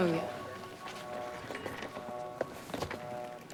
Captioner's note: footstep